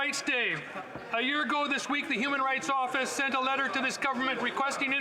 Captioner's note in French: voix de l'interprète